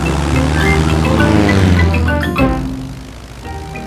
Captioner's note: plane engine revving